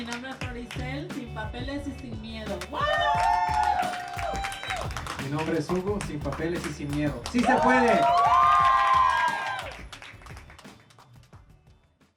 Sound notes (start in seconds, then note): 0.1 speaking in foreign language; 2.6 crowd applauding; 5.3 speaking in foreign language; 7.4 crowd applauding